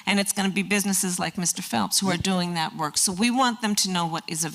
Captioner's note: none